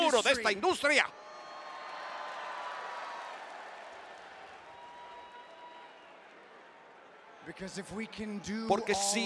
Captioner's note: applause